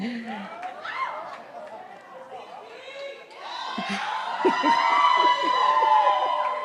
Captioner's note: cheering from the audience; laughing